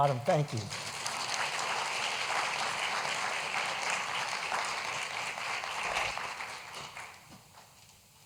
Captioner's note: applause